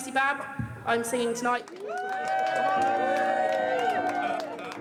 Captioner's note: cheering